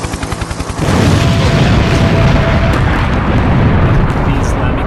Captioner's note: helicopter blades whirring; bombs banging